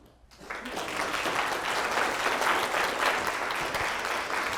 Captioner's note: audience applauding